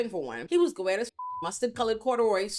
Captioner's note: beep